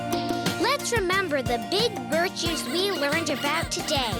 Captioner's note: squeaking